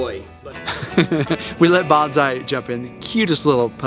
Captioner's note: laughs